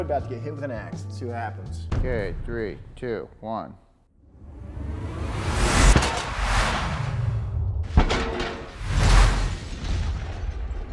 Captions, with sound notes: about to get hit with an ax, see what happens. - Okay, three, two, one. (slow whooshing) (metals bang)